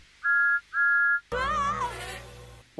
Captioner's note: Thomas' whistle blowing; Rainbow Dash screams